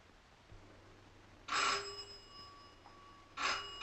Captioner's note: phone ringing